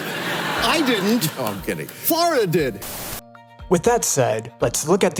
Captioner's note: audience laughs